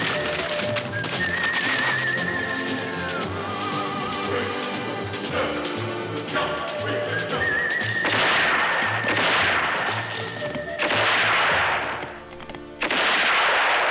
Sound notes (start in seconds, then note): 8.0 gunshots